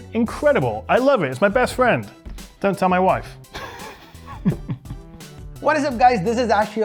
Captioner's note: laughs